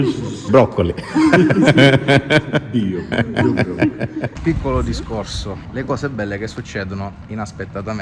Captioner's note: laughs